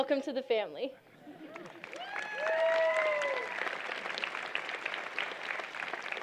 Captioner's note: applause